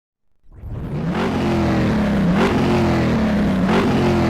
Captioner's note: car-engine revving